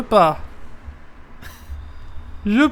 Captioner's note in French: rire